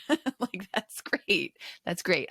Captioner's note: chuckles